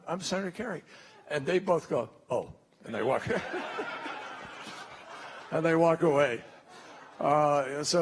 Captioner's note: laughter